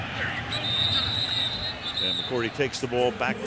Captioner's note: whistle blows